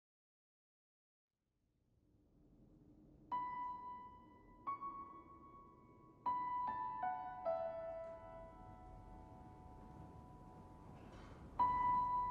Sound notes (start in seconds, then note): none